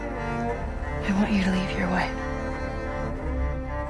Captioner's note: voiceover